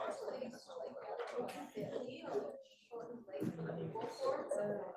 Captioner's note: students chattering